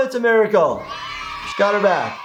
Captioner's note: children cheering yay